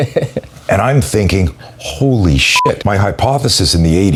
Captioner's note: beep